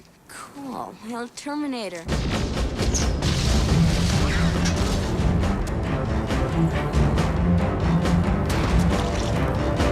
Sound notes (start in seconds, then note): 2.0 bombs exploding; 2.7 upbeat music; 8.5 gun firing